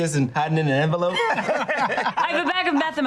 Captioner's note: laughter